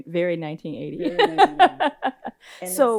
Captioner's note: laughs